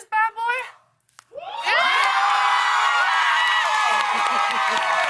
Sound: cheers and applause

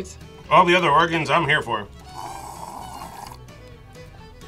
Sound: slurps

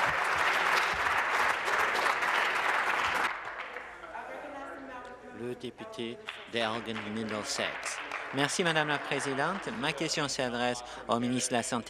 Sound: applause

